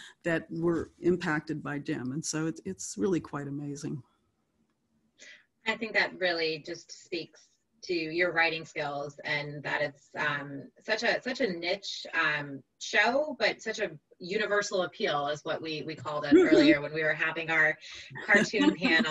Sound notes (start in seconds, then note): 16.2 laughs; 18.0 laughs